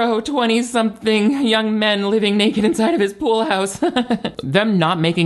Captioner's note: chuckles